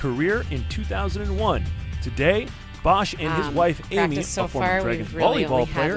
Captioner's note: explosion rumbling